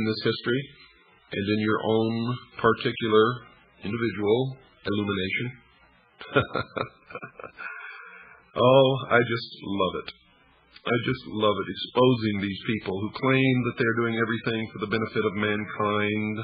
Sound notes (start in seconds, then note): 6.2 laughs